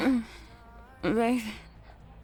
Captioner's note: slurred speech